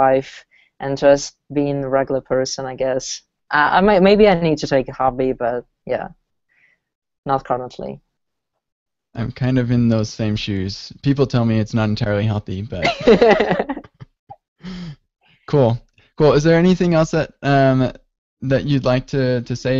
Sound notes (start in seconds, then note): 12.8 laughter